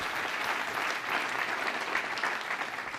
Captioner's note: audience applause